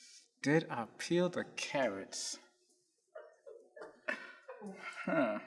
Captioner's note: crew laughing